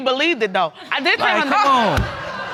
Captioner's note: audience laughing